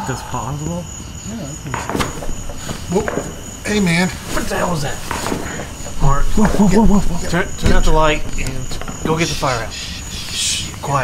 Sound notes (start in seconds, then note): 1.8 branches breaking